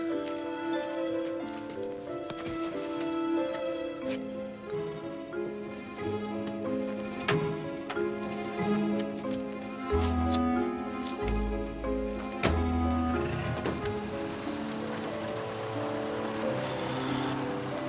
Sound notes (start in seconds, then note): 12.5 engine revs